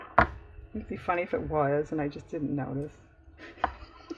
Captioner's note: laughs